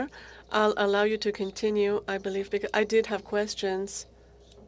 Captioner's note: speaking French